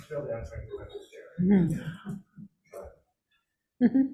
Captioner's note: speaking faintly